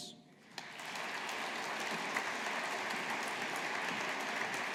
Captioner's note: audience applauding